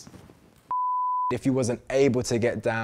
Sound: beep

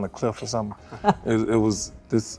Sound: laughing

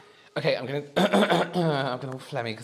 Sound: clears Throat

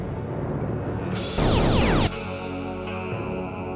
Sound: laser tone upon pulsar retrieval

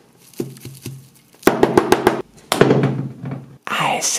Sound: tapping on clay; clay banging

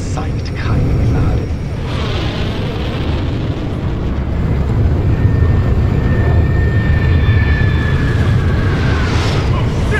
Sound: engine noices

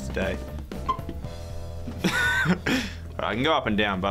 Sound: pop

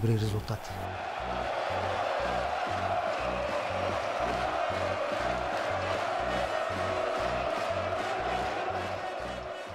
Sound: fans chanting

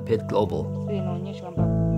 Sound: foreign language

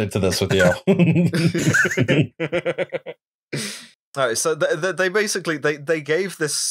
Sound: laughter

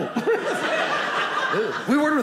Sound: audience laughing

